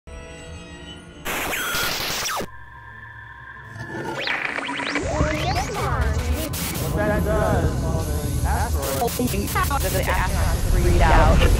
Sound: sound Effects

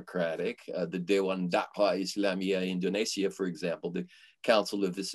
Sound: foreign language

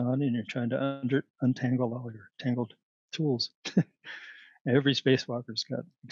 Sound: laughter

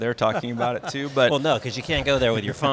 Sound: laughing

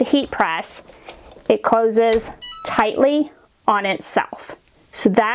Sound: heat press beeping

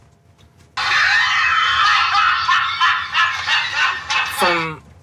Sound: laughter

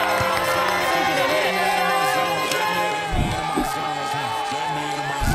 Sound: cheering

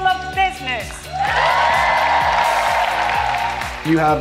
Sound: students cheering

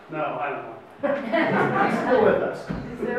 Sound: audience laughs

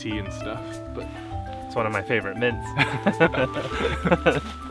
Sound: both laugh

